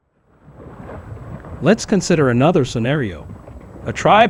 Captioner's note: underwater